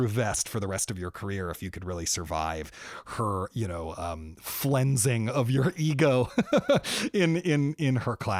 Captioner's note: laughter